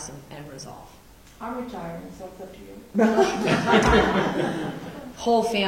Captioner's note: laughter